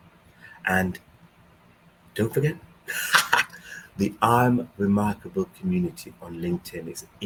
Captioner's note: laughs